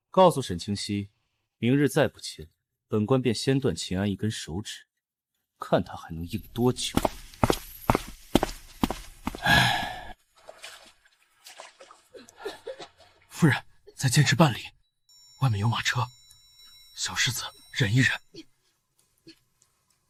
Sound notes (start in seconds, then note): 9.4 sigh